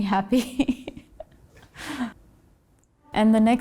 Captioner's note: laughs